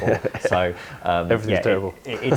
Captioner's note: laughter